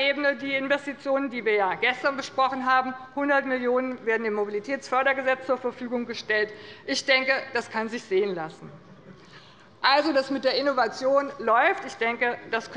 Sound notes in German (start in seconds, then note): none